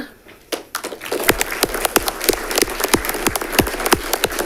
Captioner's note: audience clapping